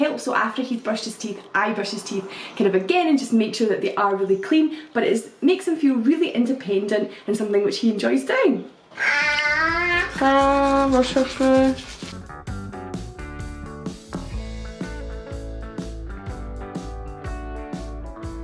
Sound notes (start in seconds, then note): 8.9 ahhhhh!